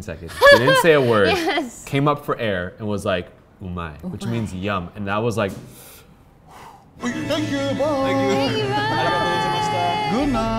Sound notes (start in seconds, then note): 2.9 speaking in foreign language; 6.4 deep exhaling